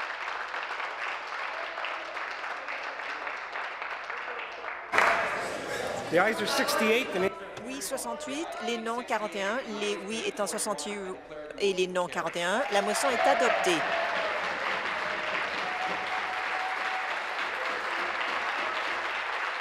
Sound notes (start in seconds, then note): 2.1 applause; 15.8 applause